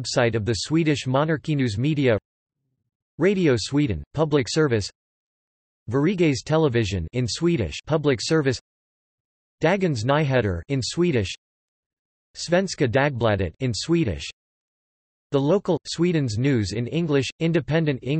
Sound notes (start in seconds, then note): 7.0 in Swedish; 11.1 in Swedish; 13.7 in Swedish